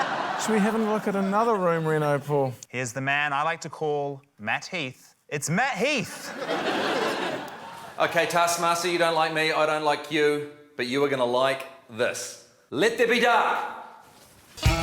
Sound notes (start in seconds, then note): 0.0 laughter; 6.0 laughter